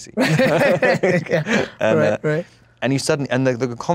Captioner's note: laughs